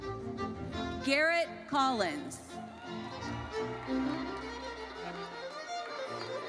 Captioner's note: audience cheers